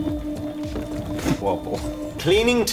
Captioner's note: laughs